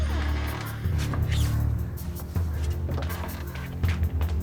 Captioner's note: door creaking